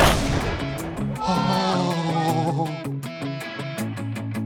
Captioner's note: groaning